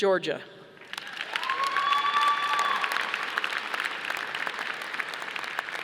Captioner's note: audience applauding